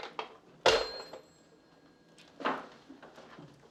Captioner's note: hangs up phone